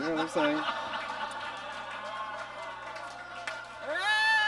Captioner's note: audience laughs